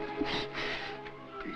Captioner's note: Larina exhales